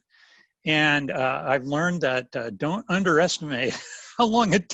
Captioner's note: laughs